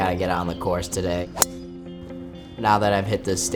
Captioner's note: club pinging